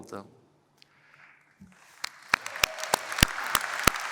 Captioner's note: applause